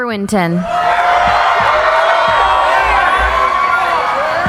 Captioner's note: cheering